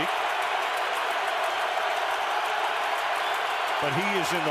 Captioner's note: cheering